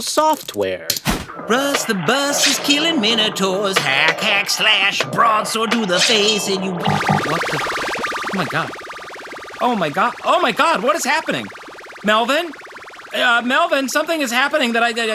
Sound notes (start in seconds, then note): 0.0 swish sound, cross-cutting to the sound of video games; 3.5 electronic bloops